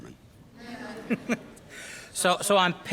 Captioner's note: audience laughs